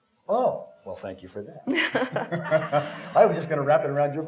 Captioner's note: laughter